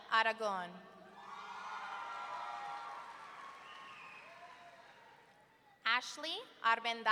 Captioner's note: audience cheering and clapping